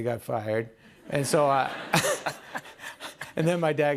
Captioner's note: laughter